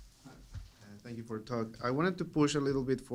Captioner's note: voiceover